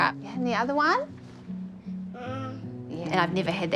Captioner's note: babbles